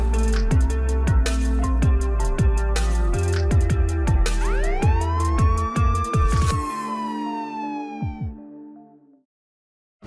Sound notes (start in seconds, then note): 4.4 police sirens